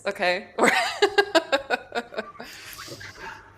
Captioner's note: laughs